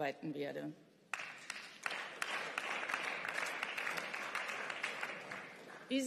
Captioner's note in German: Beifall